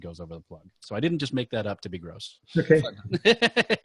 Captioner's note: laughing